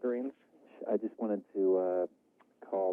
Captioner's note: man 1 speaking